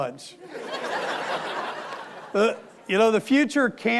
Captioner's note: audience laughing